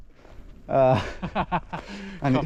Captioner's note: laughing